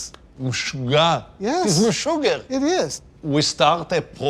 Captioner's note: speaking Hebrew